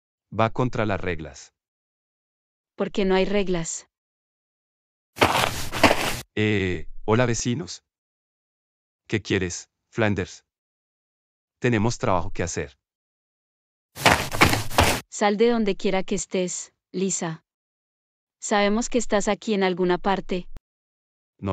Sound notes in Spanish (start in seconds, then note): 5.2 FX - Footsteps - On Multiple Dirt - Walk; 14.0 FX - Footsteps - On Multiple Dirt - Run